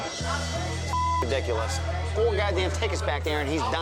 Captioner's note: beep